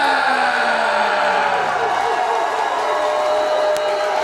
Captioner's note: crowd cheering